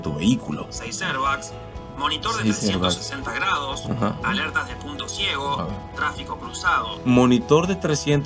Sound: man speaking in Spanish

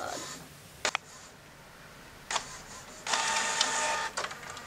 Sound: printer goes off; printer continues to go off

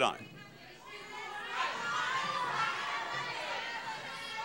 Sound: audience shouting

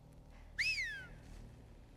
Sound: whistle

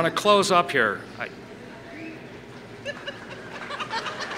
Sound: laughter; applause

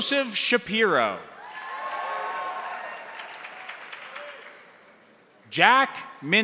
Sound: crowd cheering; crowd applauding

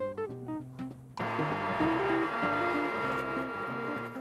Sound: machines whirring

